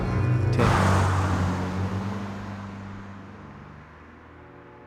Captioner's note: car passing